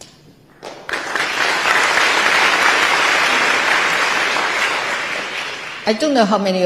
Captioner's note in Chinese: 台下熱烈鼓掌